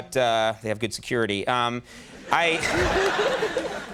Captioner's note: audience laughs